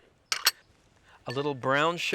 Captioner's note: glass bowl clanking